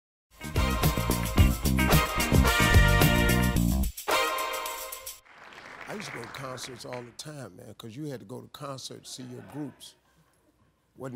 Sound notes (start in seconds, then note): 0.4 upbeat music; 5.2 clapping